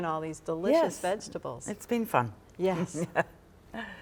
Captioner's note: laughs